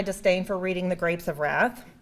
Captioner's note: none